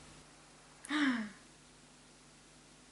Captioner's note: gasps